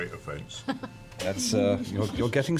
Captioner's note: laughs